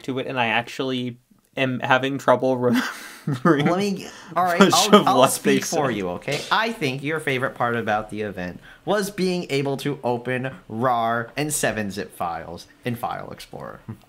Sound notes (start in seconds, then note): 2.6 laughing in Microsoft suffering